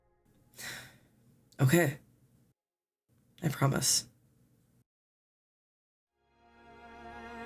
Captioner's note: sigh